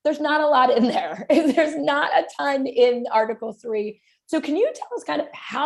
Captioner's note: laughter